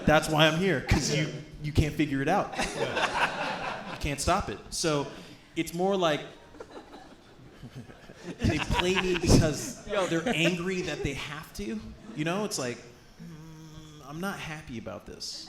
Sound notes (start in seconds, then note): 6.5 laughs